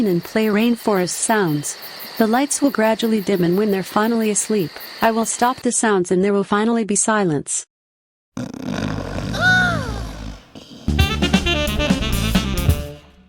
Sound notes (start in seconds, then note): 8.4 snoring